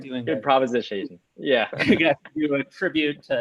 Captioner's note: chuckles